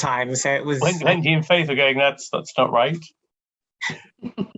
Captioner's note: laughs; laughs